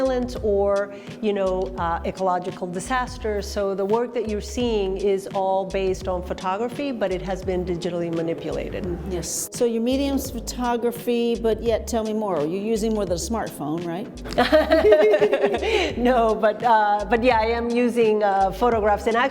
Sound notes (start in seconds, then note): 14.2 both laughing